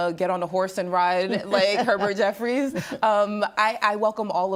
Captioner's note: laughing